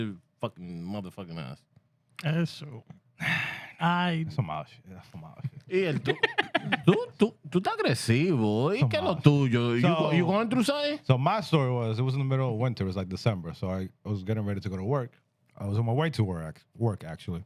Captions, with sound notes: fucking motherfucking ass. (Speaking Spanish) So my story was, it was in the middle of winter. It was like December, so I was getting ready to go to work. I was on my way to work, actually.